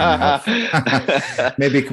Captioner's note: laughter